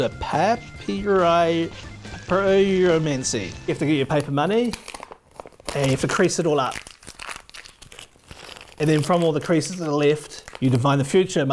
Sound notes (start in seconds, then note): 4.8 paper crinkling; 6.9 paper crinkling